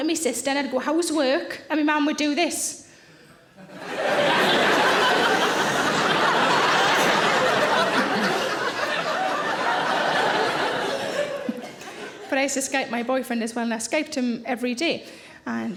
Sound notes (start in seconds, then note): 3.6 audience laughing